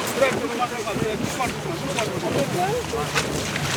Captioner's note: waves crash; men chatter in foreign language